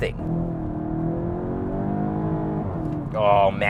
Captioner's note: car engine accelerating